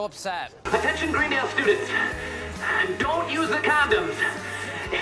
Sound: out of breath

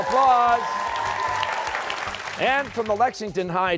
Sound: applause

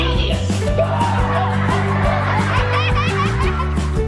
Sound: crowd laughing

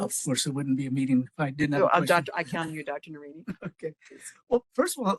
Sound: laugh

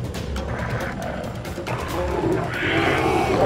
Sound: animalistic growling

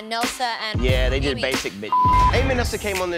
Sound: beep

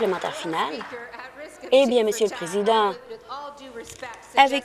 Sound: applause

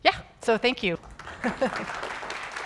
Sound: audience applauding

